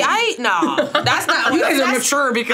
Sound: laughing

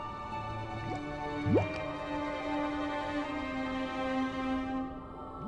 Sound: bubbles

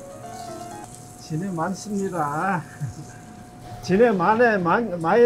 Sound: speaking in Korean

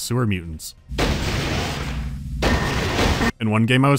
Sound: loud gunshots

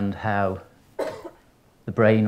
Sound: coughs

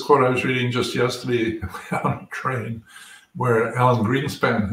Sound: laugh

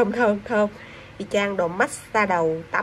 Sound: inhale

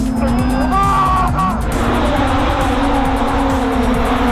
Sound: screeching tires

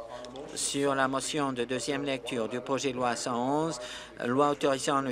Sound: applause

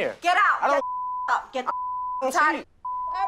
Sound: beep

